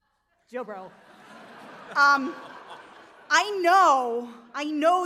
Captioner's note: audience laughs